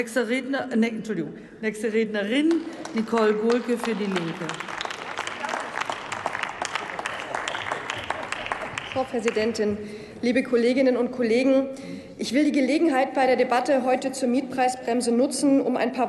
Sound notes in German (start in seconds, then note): 4.9 Applaus